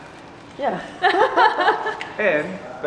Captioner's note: laughter